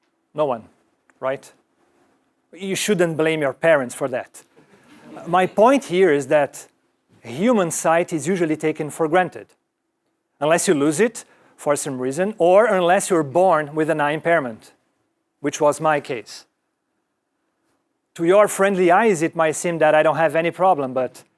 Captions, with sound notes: No one, right? You shouldn't blame your parents for that. >> [LAUGH] >> My point here is that human sight is usually taken for granted. Unless you lose it for some reason, or unless you were born with an eye impairment, which was my case. To your friendly eyes, it might seem that I don't have any problem, but